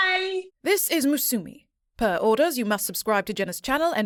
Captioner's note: stern, Polished Female Voice